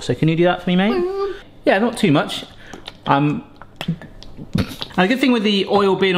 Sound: laughs

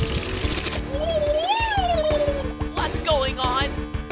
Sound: worried bubbling noises

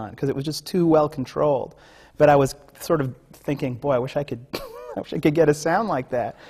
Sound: laughs

